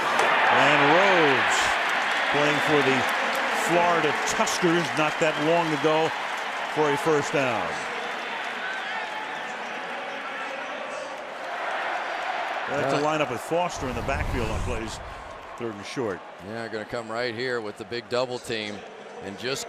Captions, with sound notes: And Rhodes playing for the Florida Tuskers not that long ago for a first down. [pa announcement] [crowd shouting] It's a lineup with Foster in the backfield on plays. Third and short. Yeah, going to come right here with the big double team